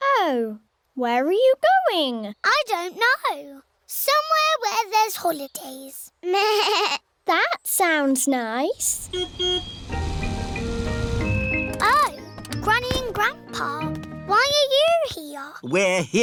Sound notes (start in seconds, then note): 9.0 car horn beeps